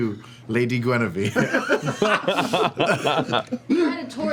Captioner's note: laughs; laughter